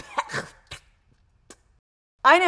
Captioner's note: spits